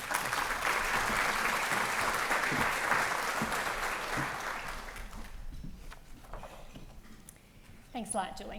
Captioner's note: applause